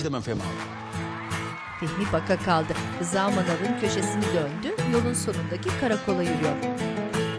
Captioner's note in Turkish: Fonda alkış ve çığlık sesleri